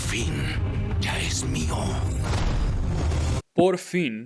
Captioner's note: speaking in Spanish